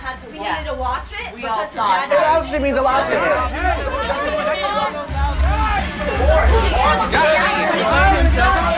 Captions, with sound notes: - We all had to watch it. - We all saw it happen. (group arguing) (upbeat music)